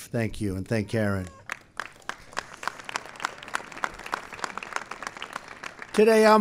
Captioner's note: applause